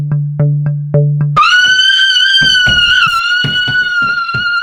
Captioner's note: woman screams